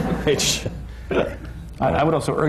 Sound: laughter

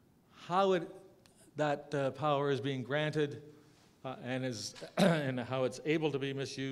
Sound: cough

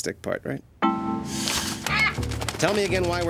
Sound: squawks

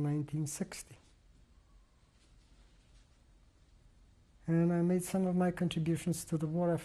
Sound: pauses for 3 seconds

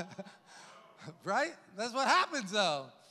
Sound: chuckles

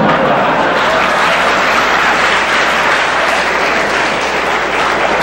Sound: audience applause and laughter

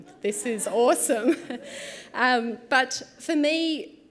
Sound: chuckles

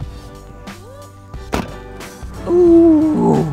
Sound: trunk latching

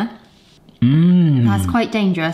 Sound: hums

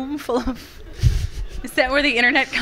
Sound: and audience members laughing

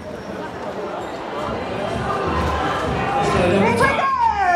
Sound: chatter

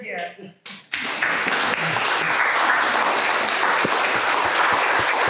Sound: audience applauding

